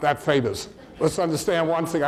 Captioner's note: audience laughs